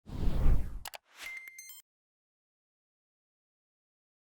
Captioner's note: digital beeps